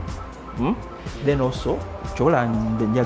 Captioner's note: foreign language